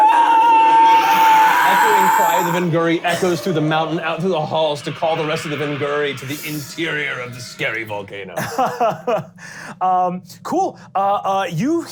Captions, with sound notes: (screeching) Echoing cry of the Vingury echoes through the mountain out through the halls to call the rest of the Vingury to the interior of the scary volcano. - Cool.